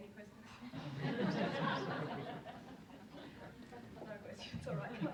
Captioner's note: audience laughs